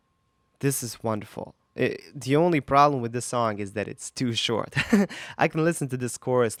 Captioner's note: giggles